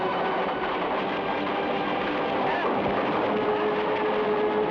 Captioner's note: flames crackle